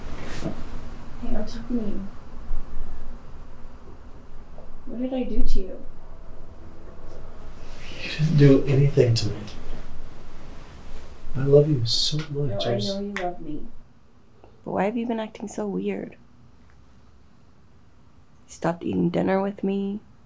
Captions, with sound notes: (mutters) What did I do to you? - You didn't do anything to me. I love you so much, I- - I know you love me. But why have you been acting so weird? You stopped eating dinner with me.